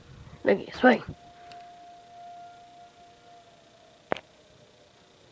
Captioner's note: siren end